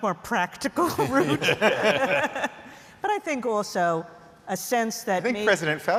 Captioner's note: laughter